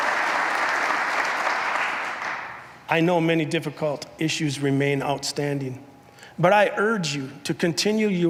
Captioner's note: applause